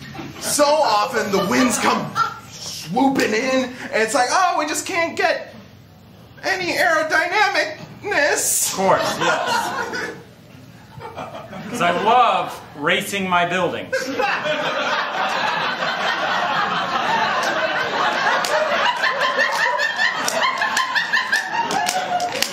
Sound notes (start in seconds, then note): 8.9 laughter; 11.3 sarcastically; 13.9 laughter